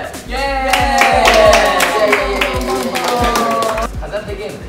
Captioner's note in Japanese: 口で拍手の真似; 拍手